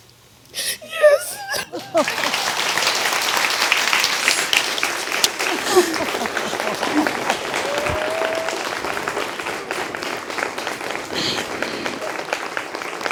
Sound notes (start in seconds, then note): 0.5 sobbing; 2.3 audience applauds; 6.6 laughs